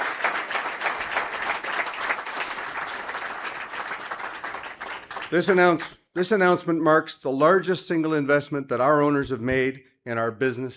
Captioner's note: applause